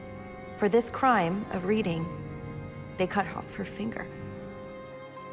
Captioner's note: voiceover